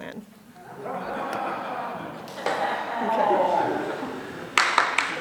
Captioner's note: laughter; applause